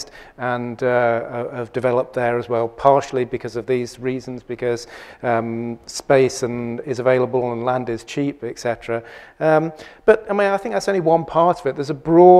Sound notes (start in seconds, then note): none